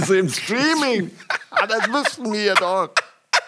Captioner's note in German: Gezwungenes Lachen